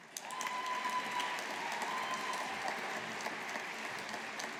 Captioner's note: audience applauding